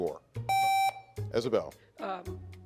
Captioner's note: contestant beeping